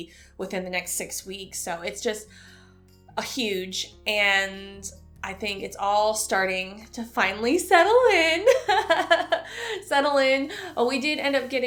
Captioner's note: chuckle